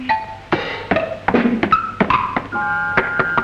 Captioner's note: sounds of steps on the stairs; knocks on door